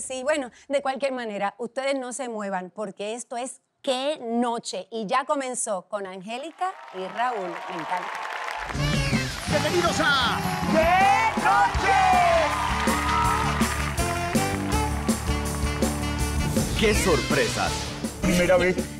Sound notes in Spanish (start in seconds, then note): 7.7 Aplausos; 11.5 Gritos